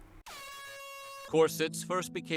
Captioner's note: air horn blast